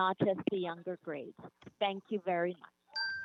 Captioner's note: chime